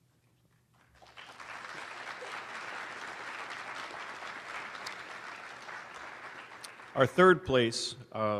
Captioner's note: applause